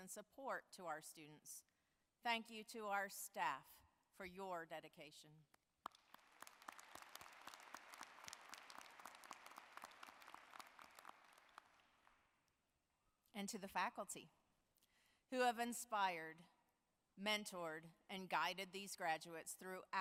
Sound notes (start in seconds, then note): 8.2 applause